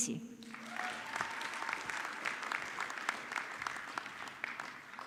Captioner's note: audience clapping